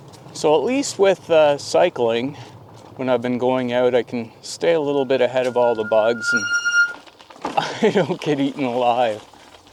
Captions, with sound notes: So at least with cycling, when I've been going out, I can stay a little bit ahead of all of the bugs and [brakes squeal loudly] [laughing] I don't get eaten alive.